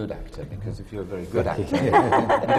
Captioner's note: laughter from the panel